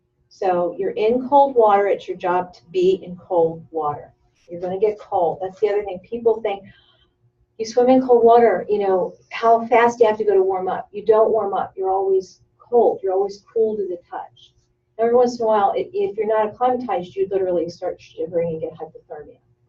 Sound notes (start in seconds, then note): none